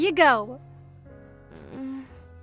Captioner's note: groans